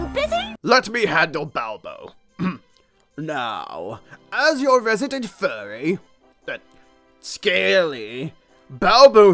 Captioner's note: clears throat